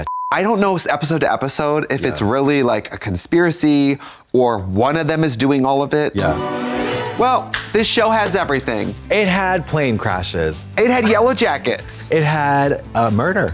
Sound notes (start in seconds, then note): 0.0 beep; 6.2 ghostly chime